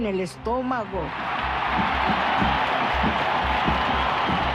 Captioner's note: crowd cheers